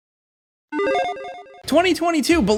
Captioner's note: electronic chiming